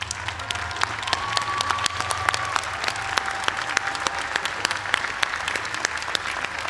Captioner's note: cheers and applause